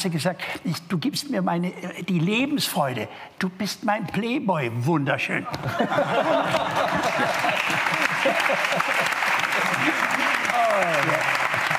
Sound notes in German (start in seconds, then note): 5.6 Lachen